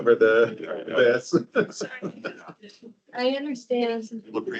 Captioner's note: participant laughing